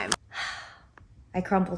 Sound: exhales

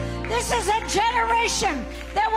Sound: audience applauding

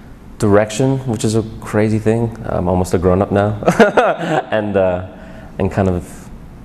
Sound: laughs

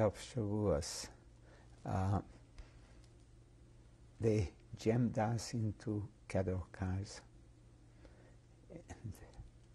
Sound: pauses for 3 seconds

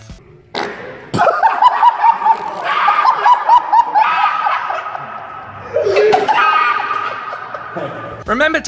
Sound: farting under the pressure

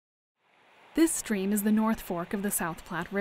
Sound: voiceover

